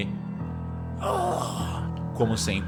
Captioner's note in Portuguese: gemidos